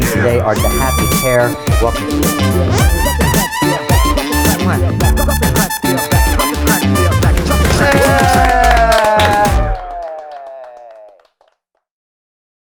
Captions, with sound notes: Joining me today are The Happy Pear, welcome to the Real Deal. (upbeat music) (cheering and clapping)